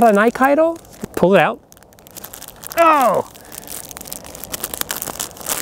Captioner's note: struggling